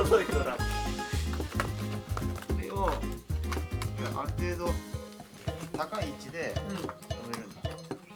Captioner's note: laughs